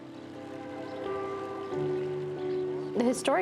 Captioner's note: train horn in distance